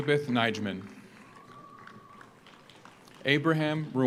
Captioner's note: audience applauds